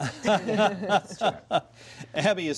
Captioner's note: laughter